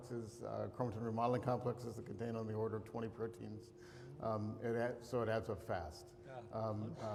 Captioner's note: laughs